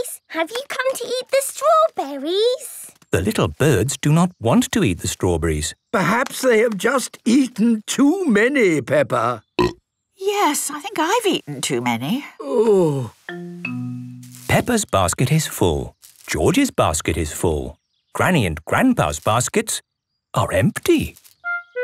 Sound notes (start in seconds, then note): 9.4 burp